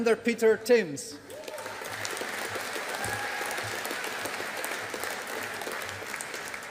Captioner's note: audience applauding